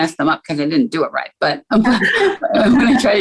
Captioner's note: chuckles